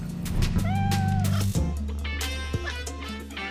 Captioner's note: cat meowing; bright music